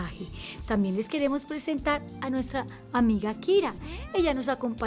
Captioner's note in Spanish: maúlla